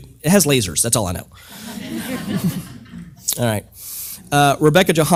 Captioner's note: laugh